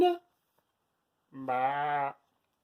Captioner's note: bleating sound